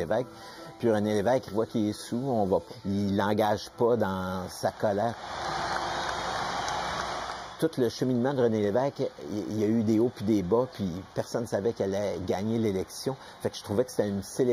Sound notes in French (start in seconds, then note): 5.2 cris de la foule